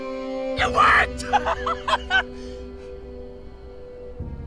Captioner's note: laughing